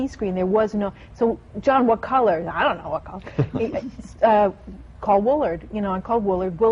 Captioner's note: laughter